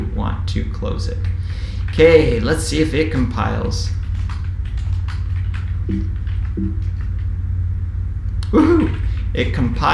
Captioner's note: keyboard typing sound